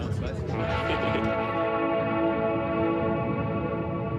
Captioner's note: laughing; slow dramatic music